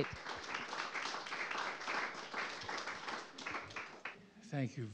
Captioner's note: applause